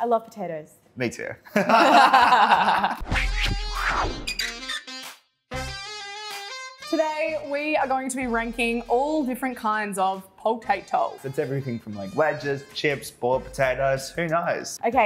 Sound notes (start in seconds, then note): 1.5 both laugh loudly